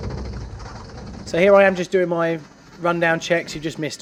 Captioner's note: voiceover